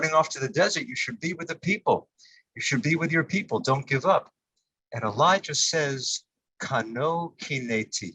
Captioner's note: Hebrew